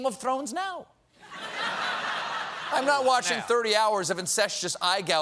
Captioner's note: laughter